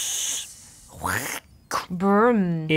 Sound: quacking followed a subtle crunch noise

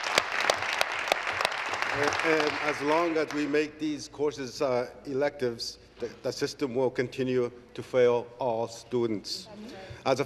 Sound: applause

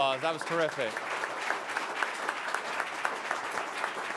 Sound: audience applauds

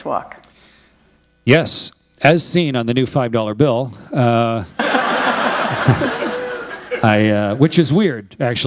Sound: laughter

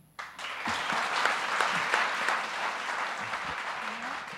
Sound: applause

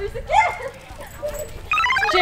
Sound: squealing

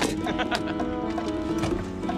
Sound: upbeat instrumental music; Pete laughs

